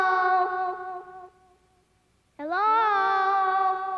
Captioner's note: voice echoing